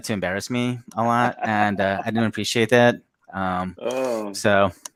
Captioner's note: Jet laughs